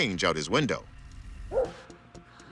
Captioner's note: dog barks